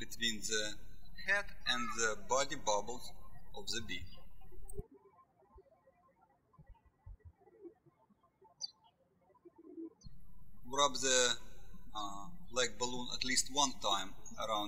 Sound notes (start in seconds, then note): 4.7 birds chirping